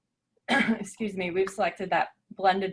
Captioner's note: clears throat